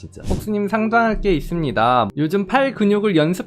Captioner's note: voiceover